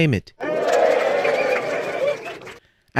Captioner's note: applause